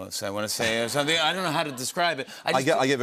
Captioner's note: laughter